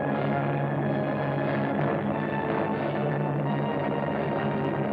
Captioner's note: airplanes rumbling